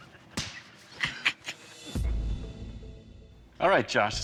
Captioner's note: laughs